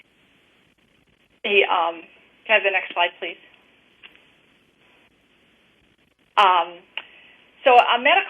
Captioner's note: pause